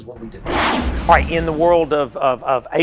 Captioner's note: whooshing